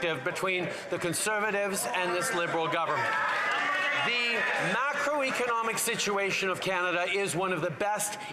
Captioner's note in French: voix de l'interprète